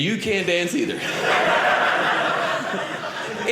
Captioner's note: audience laughing